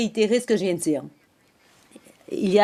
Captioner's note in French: voix de l'interprète